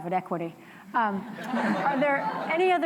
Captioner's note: laughter